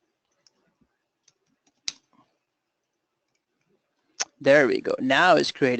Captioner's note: pause